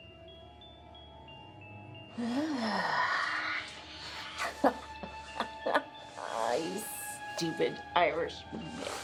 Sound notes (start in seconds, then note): 1.9 Ramona growls; 4.5 Ramona laughs